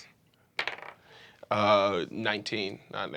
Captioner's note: rolls dice